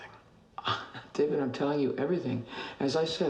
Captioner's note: chuckles